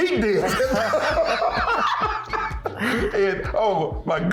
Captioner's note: laughing